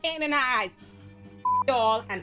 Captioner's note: beep